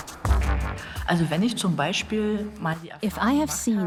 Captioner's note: speaks German